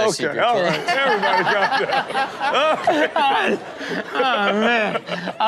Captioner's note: everyone laughs